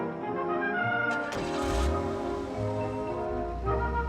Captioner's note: engine starts